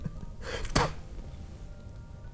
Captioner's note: spits